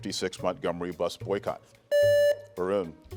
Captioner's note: buzzer beeps